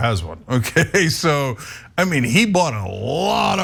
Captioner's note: laugh